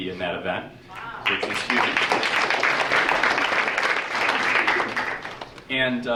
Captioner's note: audience applauding